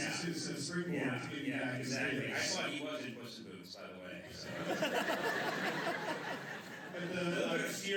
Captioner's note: laughter